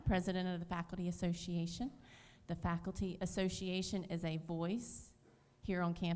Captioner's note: none